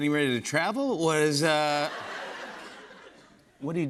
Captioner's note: laughter